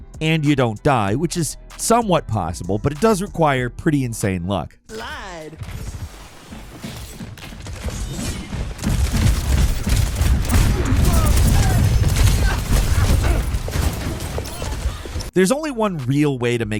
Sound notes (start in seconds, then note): 6.3 characters grunting; 7.4 guns firing